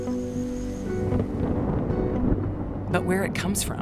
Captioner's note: thunder rumbling